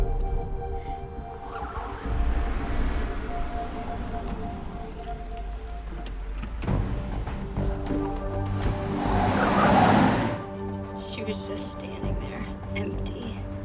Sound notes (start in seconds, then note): 0.9 car approaching; 8.5 tires squealing